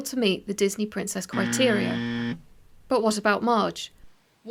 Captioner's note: sound effect: Incorrect buzzer sound